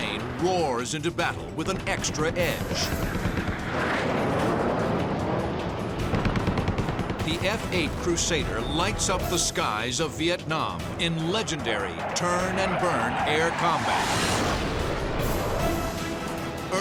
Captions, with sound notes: One plane roars into battle with an extra edge. [gunshots] The F-8 Crusader lights up the skies of Vietnam in legendary turn and burn air combat.